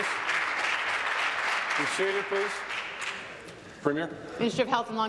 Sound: applause

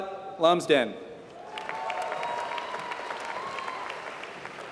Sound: applause

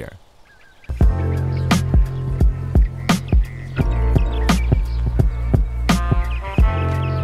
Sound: birds chirping; chill music

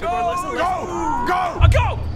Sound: aaahhhhhahh!

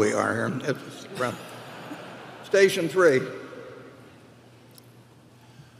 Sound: laughter

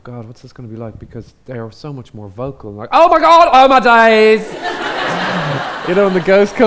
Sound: audience laughs

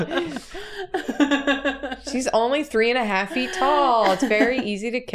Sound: laughter

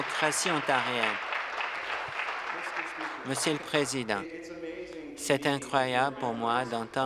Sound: applause

